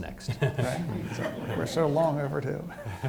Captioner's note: participants laughing